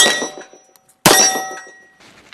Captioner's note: bang